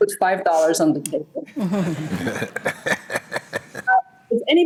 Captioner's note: laughter